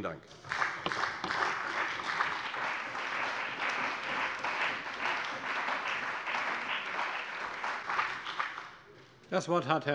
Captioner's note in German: Beifall bei der CDU und dem BÜNDNIS 90/DIE GRÜNEN